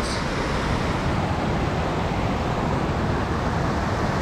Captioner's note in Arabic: تدفق المياه